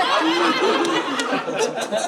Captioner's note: audience laughing